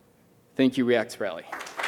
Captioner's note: cheers and applause